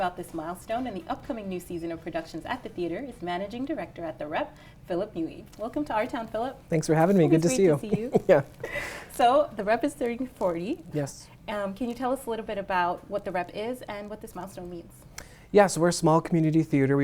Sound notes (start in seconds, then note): 7.4 chuckles